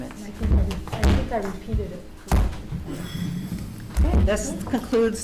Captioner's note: voices murmuring